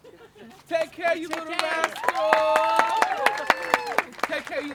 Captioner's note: applause and cheers